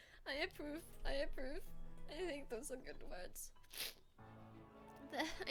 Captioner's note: sniff